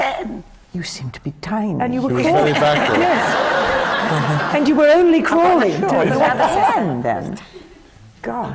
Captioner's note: laughter